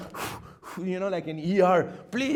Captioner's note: huffing